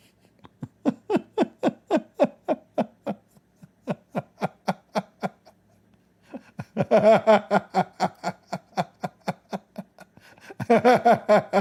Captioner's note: Ketawa